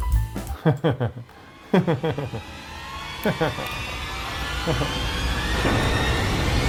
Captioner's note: tense music; laughing